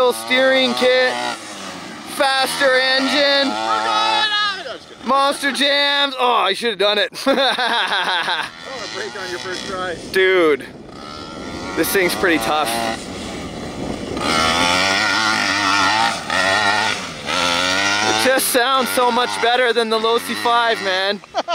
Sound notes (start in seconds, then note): 7.1 laughs